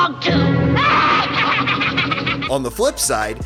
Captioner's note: cackles